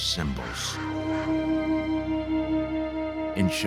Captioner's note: conch horn trumpets